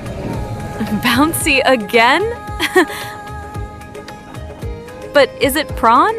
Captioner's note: haha